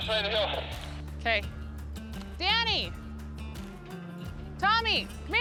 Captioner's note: none